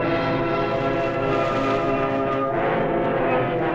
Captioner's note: rustling